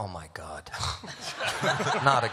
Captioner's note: laughter